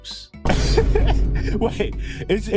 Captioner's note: chuckles